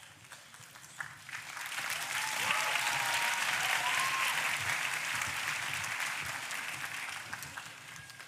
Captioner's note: applause